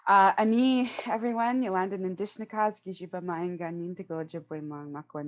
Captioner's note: speaking Indigenous Language